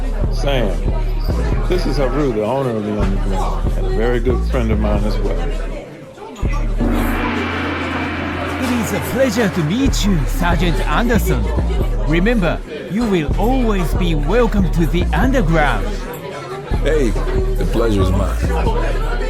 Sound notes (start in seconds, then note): 6.8 gong striking